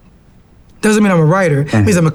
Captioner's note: grunts